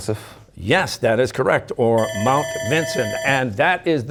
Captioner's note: bell ringing